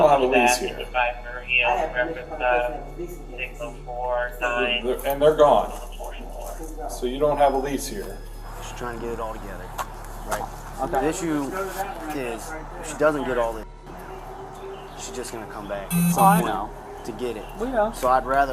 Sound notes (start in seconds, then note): 3.5 officer On radio